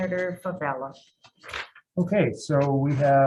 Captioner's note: paper rustling